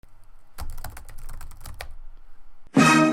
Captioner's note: typing